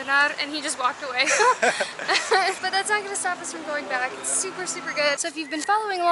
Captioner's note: laughter